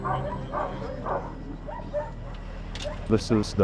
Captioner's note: dogs barking